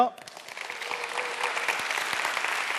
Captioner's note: applause